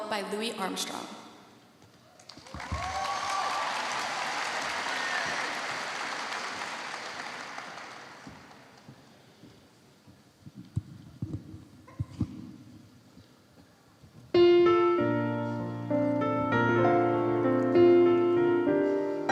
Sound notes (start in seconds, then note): 7.5 applause